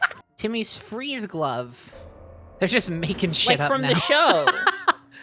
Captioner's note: laughing